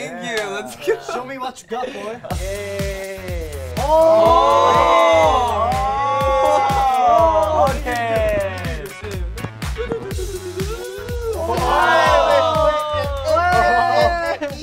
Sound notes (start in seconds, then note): 2.4 upbeat music; 3.8 members exclaiming in awe; 10.5 members cheering